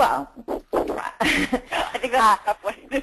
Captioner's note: laughs